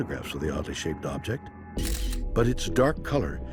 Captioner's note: camera shutter